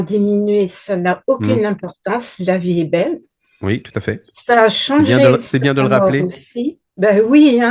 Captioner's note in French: raclement de gorge